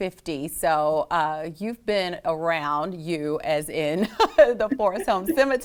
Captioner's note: laughs